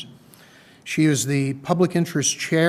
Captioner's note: none